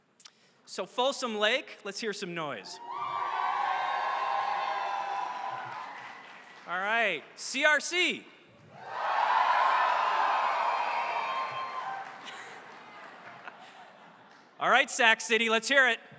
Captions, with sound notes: So Folsom Lake, let's hear some noise. [ Applause ] All right. CRC? [ Applause ] All right, Sac City, let's hear it.